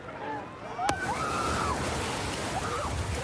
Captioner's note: excited screaming